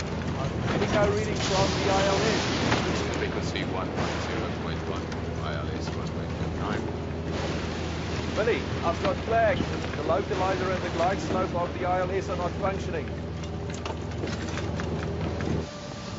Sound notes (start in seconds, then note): 5.0 thunder rumbles